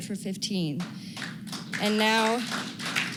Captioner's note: applause